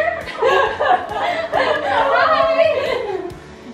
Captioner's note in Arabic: يضحك